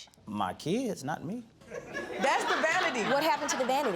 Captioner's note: audience laughing